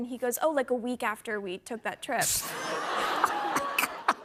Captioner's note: laughter